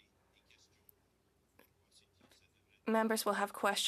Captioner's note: speaking French